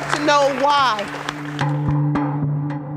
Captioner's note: applause